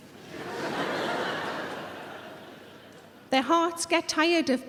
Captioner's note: audience laughing